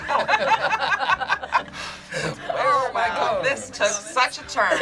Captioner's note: group laughs